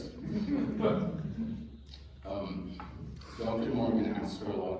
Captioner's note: laughter